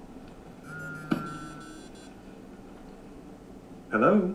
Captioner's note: phone ringing